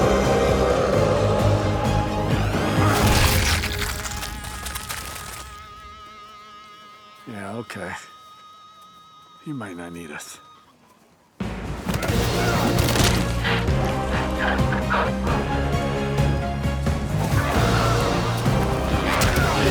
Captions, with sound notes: (goo splatters) - Yeah, okay. He might not need us. (intense music)